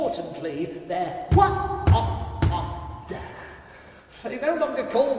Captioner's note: creature stammering